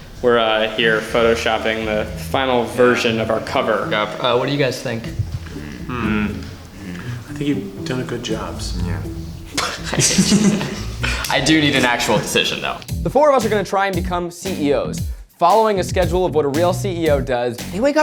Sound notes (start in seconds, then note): 9.4 laughs